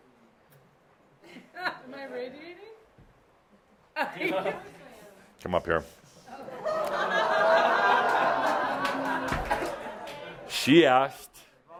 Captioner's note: laughter